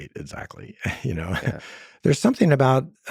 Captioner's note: laughing